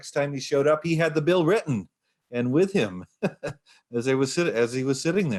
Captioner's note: laughs